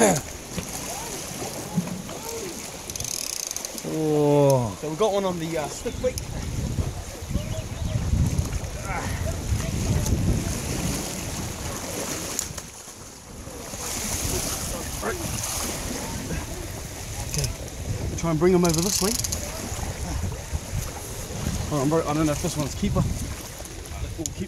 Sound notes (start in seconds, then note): 0.1 coughing; 2.8 line crackling; 8.9 grunting; 10.3 water splashing